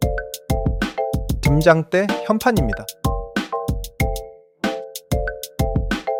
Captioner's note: speaking in foreign language